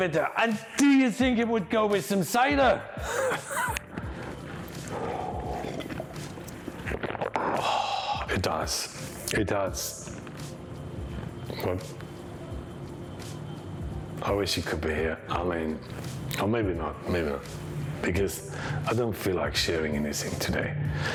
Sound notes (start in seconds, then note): 3.0 laughs; 4.5 slurping